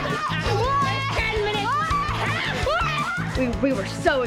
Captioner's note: screaming